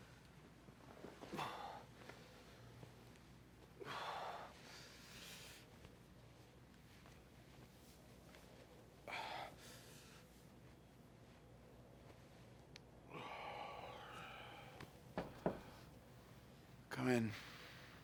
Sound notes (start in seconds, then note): 15.1 knock at door